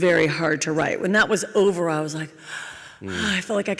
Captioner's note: deep exhale